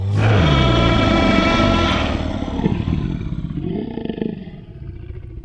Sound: roaring

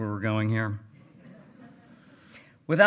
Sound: hearty laughing

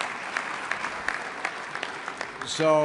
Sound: applause

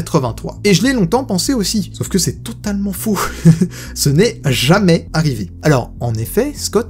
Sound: laughs

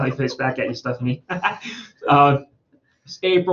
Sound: laughs

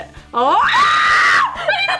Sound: screaming

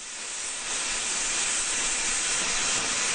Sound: blowtorch roars

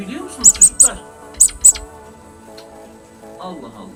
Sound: rabbit voice

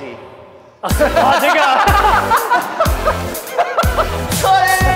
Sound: laughing

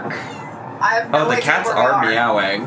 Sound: cats meow

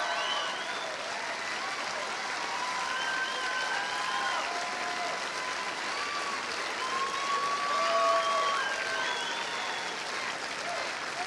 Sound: cheers and applause

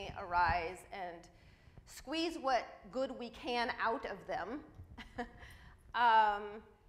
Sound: laughs

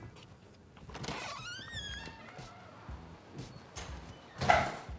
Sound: door creaks open; door closes

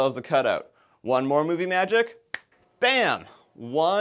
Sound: snaps fingers

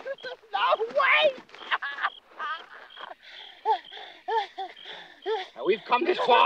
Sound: gasping

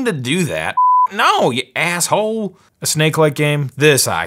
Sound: beep

